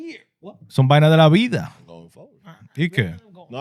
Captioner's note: speaking In Foreign Language